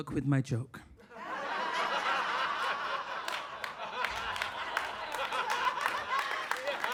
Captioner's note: audience laughing and applauding